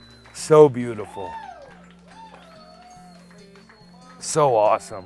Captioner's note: audience cheering